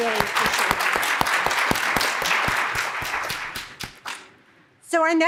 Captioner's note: audience clapping